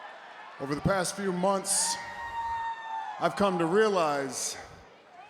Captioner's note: applause